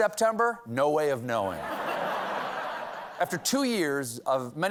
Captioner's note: laughter